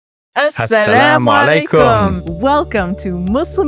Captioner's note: pair speaks a foreign language